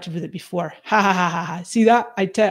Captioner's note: laughs